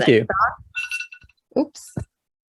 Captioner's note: phone alarm ringing